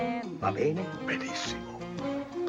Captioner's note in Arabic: الصوت المنطوق بالإيطالية